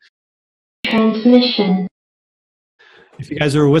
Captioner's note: voiceover